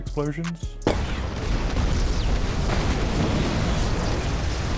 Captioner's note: roaring explosion